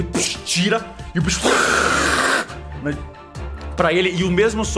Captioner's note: hiss